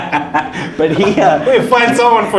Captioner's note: laughing